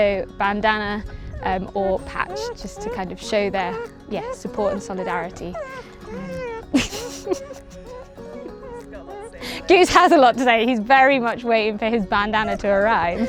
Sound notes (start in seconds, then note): 8.7 dog whining